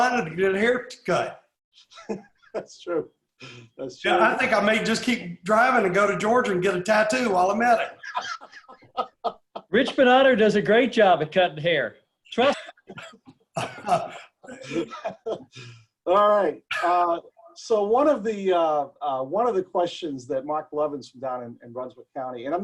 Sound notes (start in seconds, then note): 1.8 laughs; 7.8 laughs; 13.4 laughs